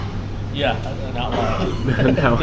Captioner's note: speaking Vietnamese